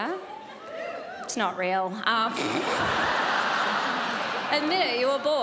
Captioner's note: sporadic cheering; snorts